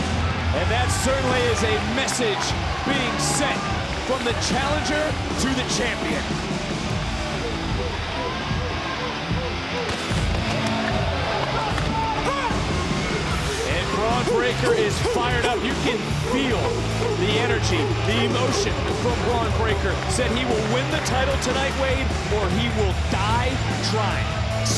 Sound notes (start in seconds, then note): 0.0 audience cheering; 7.2 audience cheering; 7.2 rock music continues